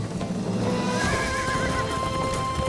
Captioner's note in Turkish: At kişneme sesi